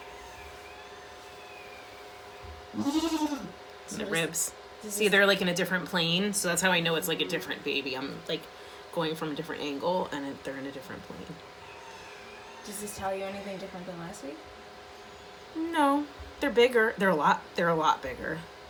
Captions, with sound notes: [rooster crow and Maybel bleating] See the ribs, see they're like in a different plane? So that's how I know it's a different baby. I'm like, going from a different angle and they're in a different plane. Does this tell you anything different than last week? No...they're bigger, they're a lot, they're a lot bigger.